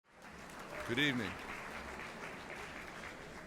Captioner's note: applause